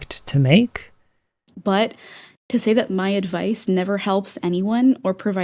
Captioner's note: inhale